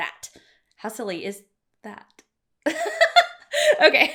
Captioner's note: chuckling